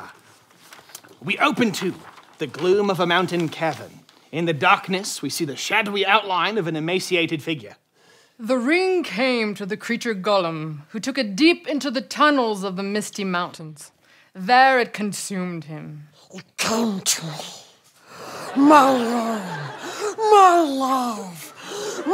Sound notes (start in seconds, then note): 17.0 Gollum voice